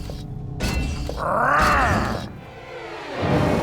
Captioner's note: growls; stifling a scream of pain